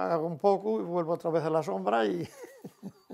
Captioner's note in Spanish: ríe